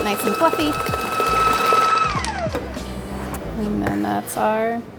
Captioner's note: machine whirring